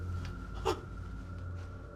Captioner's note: gasping